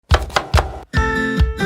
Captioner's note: loud chopping; whimsical music